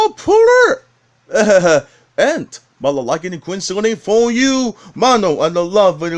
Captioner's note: laughs